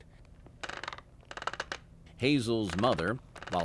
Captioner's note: rocking chair creaking